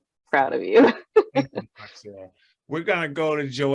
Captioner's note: laughs